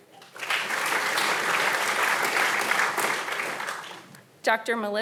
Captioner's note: audience applauding